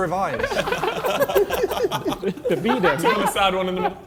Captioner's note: men laughing